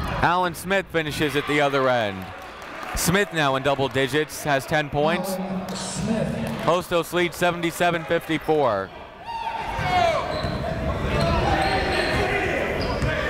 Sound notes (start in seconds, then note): 8.9 chatter